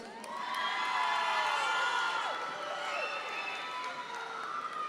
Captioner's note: audience members cheer